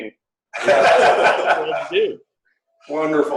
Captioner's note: laughter